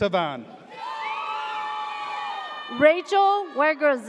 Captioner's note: audience cheers